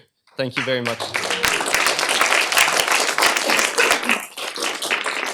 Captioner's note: applause